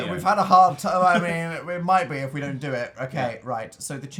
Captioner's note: laughs